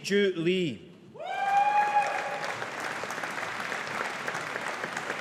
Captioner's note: audience applauding